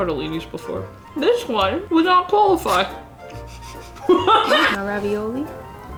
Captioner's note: both laughing